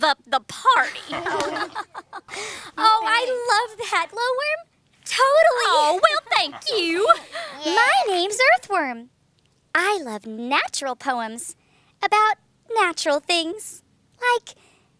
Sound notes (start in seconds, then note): 11.3 laughter